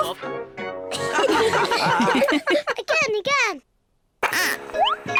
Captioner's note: all giggle